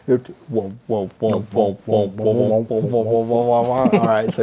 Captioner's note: mouthing beats